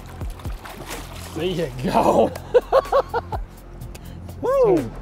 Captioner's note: laughs